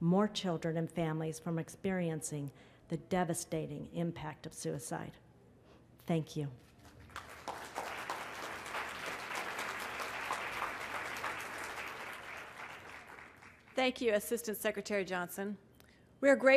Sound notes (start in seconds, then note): 9.6 applause